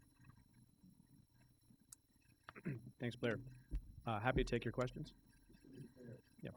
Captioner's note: clears throat